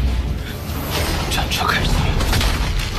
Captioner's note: the war chariot starts